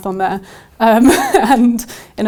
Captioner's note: laughs